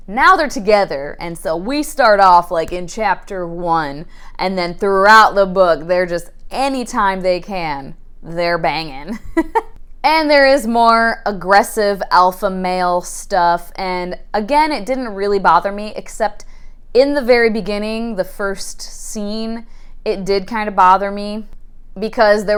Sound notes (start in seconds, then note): 9.2 laughs